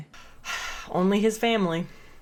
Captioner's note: deep sigh